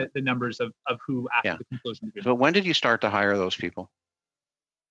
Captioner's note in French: voix de l'interprète